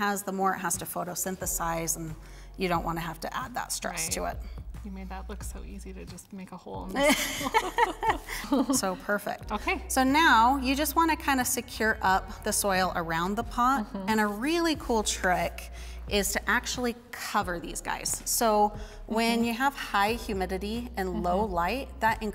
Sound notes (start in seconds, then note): 7.0 laughing